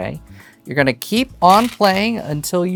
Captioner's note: stones rattling